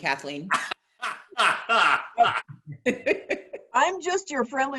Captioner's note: laughing